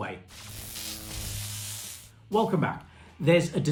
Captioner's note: electricity crackling